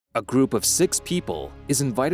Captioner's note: afraid Voiceover